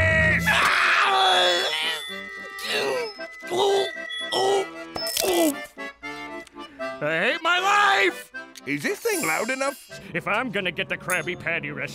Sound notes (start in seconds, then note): 0.0 screaming; 2.3 grunting